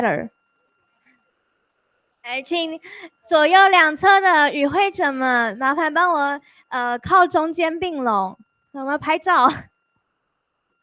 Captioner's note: Speaking Chinese